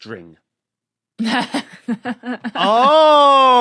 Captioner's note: laughs